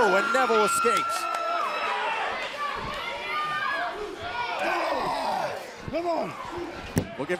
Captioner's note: crowd cheering